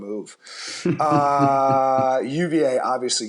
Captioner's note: laughter